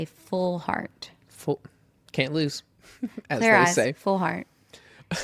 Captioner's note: laughs